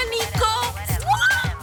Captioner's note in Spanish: Exclamación